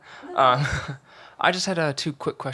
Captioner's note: chuckles